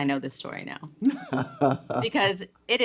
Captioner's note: chuckling